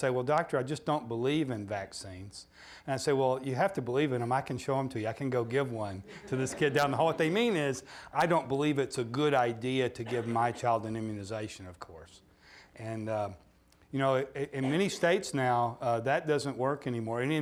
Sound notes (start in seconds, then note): 6.0 audience laughing